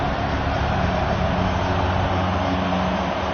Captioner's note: crowd cheering